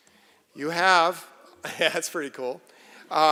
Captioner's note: laughter